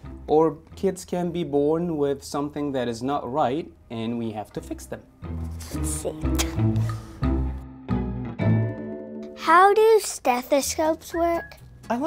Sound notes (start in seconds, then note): 6.4 laughs; 7.7 pensive playful music